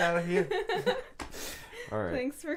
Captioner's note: laughing